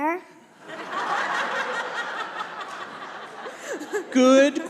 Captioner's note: congregation laughs